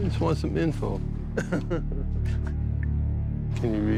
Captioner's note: laughing